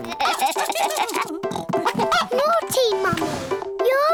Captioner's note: giggling